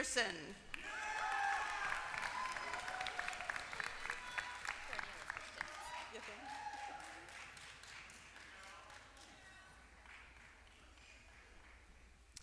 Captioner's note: applause